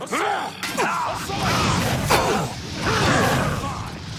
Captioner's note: battle sounds